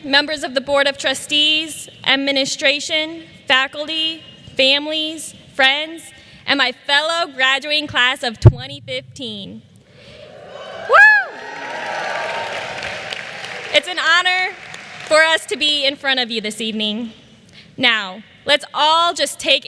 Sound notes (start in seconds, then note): 10.2 cheers and applause